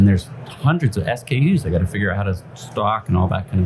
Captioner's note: none